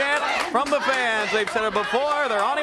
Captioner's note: crowd cheering